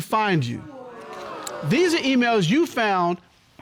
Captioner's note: audience exclaiming